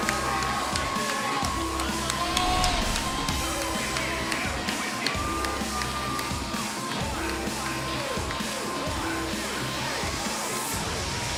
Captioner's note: cheers & applause